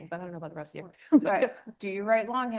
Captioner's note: laughs